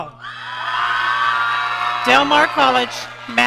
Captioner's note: audience cheering